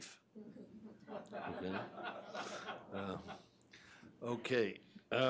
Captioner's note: audience laughs